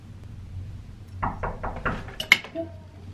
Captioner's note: door knocking